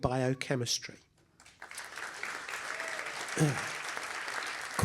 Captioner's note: applause